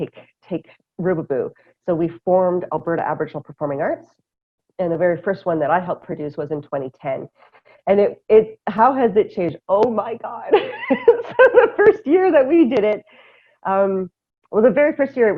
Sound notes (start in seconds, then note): 10.5 laughter